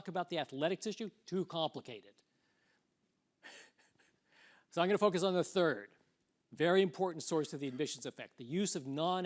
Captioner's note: laughs